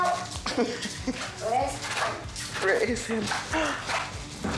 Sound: laughs

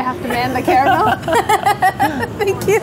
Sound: both laughing

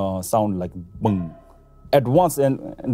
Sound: deep thud

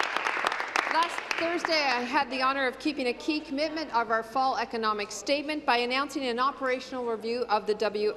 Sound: applause

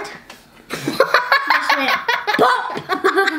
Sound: laughter

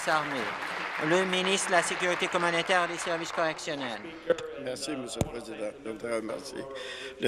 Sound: applause

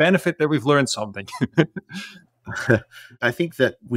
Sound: laugh

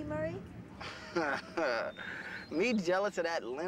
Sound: chuckling

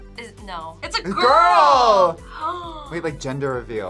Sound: gasps

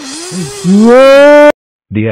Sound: both screams at eachother

